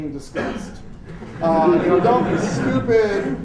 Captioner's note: laughter